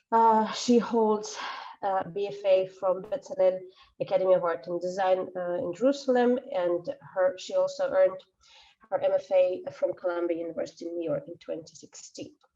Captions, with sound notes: (exhales sharply) and she holds a BFA from Bezalel Academy of arts and Design in Jerusalem and her, she also earned her MFA from Columbia University in New York, in 2016.